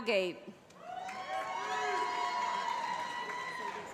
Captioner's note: cheering